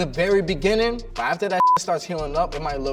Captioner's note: beep